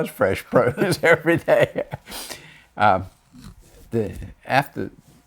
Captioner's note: laughs